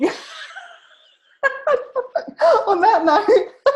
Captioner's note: laughing